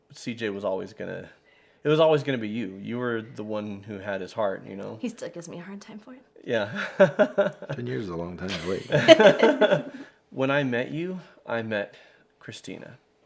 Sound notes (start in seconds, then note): 6.6 laughs; 8.4 everyone laughs